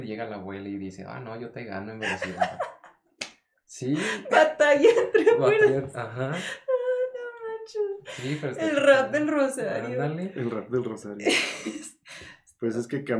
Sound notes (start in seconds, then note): 2.0 more laughter